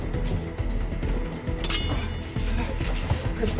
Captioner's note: suspenseful music continues; ax clanks